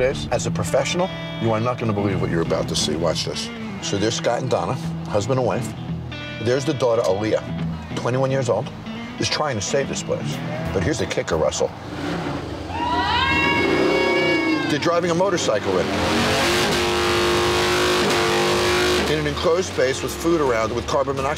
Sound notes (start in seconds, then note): 12.2 motorbike engine roars